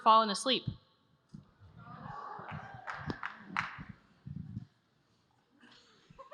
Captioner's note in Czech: Potlesk